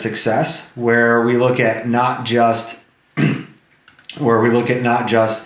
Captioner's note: throat clearing